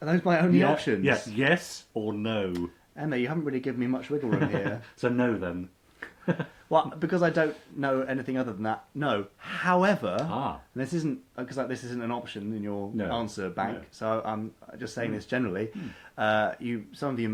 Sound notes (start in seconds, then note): 4.3 laughs; 6.1 chuckles